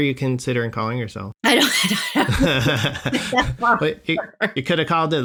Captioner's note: laughter